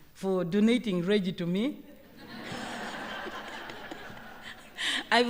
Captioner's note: laughter